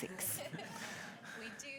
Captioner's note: audience chuckles